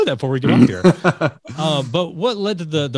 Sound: laughing

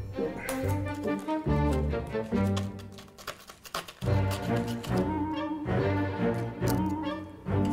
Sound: rock grinding

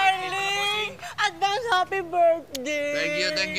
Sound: kisses

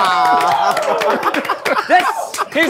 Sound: everyone cheering

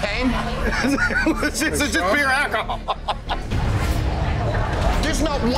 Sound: laughing

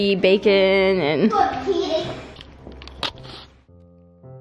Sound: mumbling

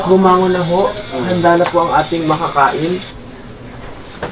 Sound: politely

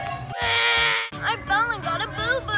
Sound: cries

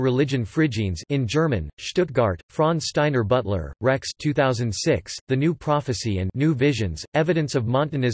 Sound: in German

